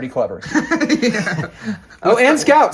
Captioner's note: laughing